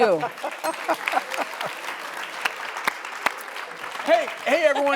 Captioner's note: laughing and clapping